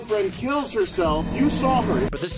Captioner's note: Dark Souls death sound effect